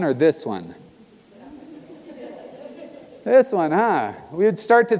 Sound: laugh

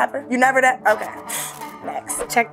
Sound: scoffs

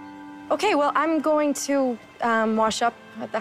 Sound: none

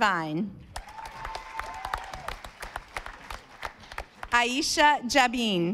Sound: audience applauding

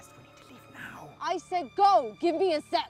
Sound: yelling

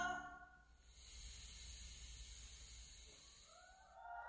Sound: static sound

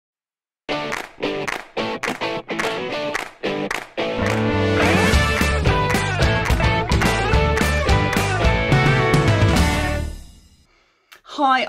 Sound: claps

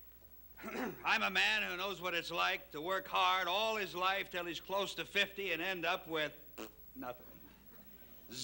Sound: Charlie coughs; raspberry noise

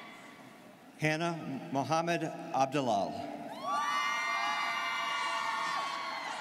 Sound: students cheering

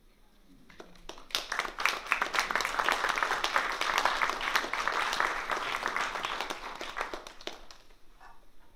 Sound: applause

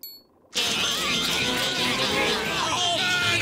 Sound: repeating "meep" over and over

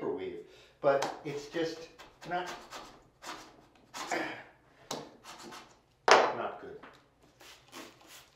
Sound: grunt

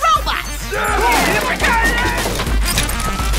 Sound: screaming

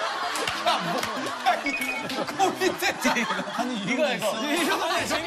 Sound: laughing

